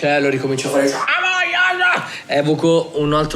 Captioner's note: scummoning screams